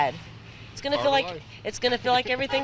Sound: nats of scanner

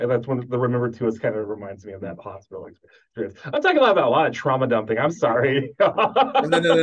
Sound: laughs

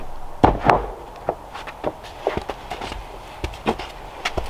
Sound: boards clattering

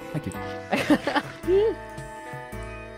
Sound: laughs

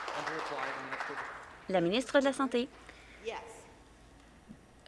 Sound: some Applause

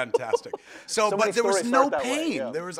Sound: chuckles

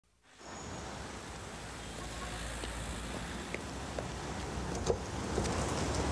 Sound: street ambience

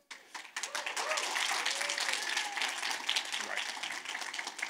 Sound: audience claps

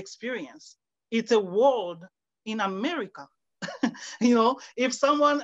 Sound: laughs

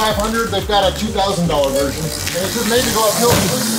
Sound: muttering as he leaves

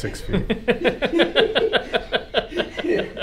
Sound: laughs loudly

